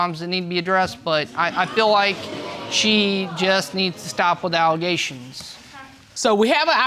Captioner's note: audience exclaiming